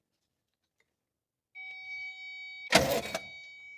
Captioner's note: beeping